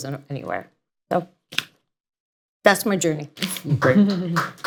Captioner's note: applause